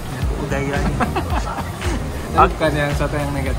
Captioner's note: laughing